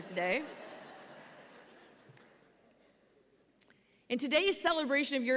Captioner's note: audience laughs